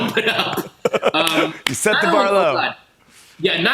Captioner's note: laughs